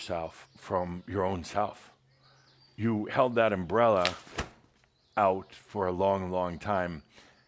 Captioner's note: opens umbrella